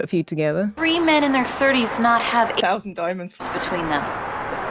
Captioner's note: voice dubbed in